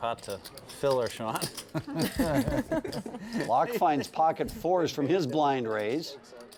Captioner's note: laugh